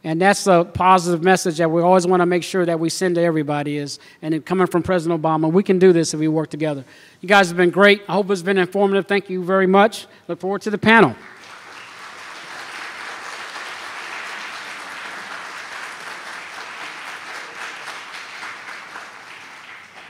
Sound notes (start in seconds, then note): 14.4 applause